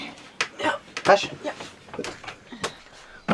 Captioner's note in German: auf Schweizerdeutsch